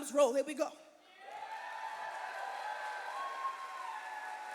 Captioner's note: cheers and applause